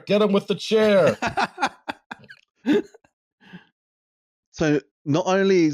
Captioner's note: laughter